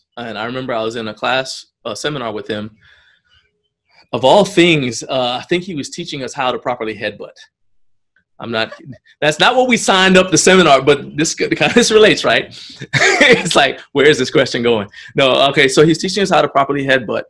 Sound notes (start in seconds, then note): 12.3 laughs